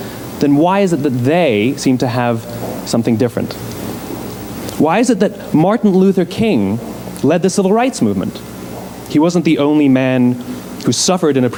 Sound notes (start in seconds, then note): none